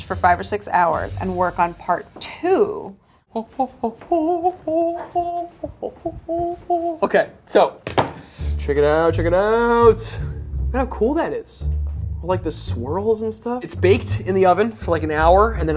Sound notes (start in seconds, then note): 3.3 humming